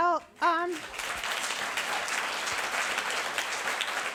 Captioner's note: audience claps